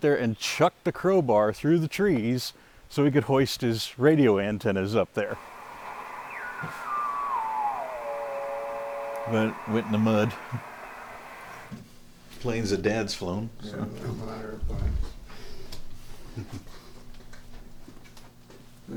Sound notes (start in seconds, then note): 5.3 squeal modulating; 5.3 static scratching